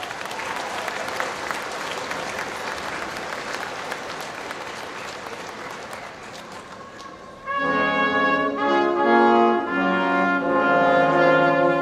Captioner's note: applause